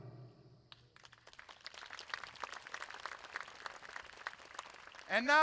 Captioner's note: audience applauding